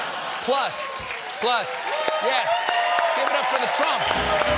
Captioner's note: applause